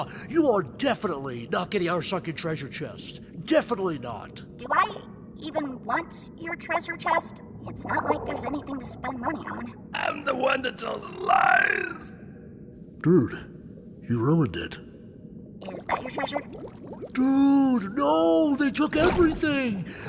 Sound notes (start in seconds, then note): 9.9 bizarre raspy voice